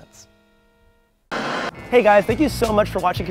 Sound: static crackling

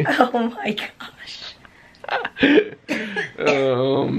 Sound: both chuckling

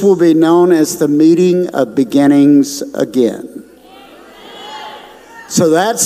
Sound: audience responds

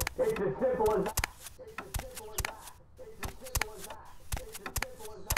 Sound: footsteps

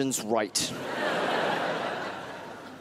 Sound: crowd laughs

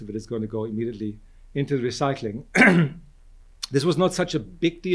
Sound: clears throat

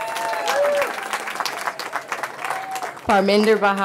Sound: cheering

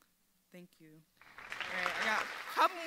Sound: audience applauding

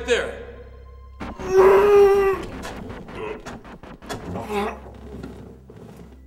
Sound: ominous music; cries out

